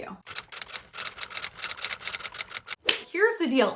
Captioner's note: keyboard clicking